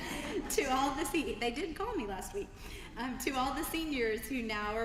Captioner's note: laugh